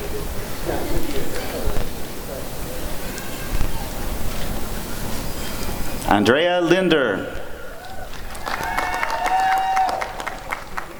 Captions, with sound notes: Andrea Linder [applause and cheering]